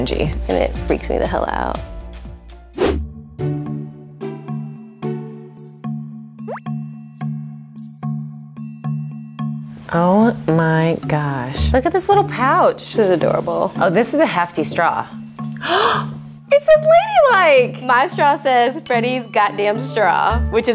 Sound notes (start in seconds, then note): 2.8 upbeat music; 15.6 gasps